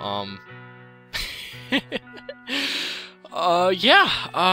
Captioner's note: laughter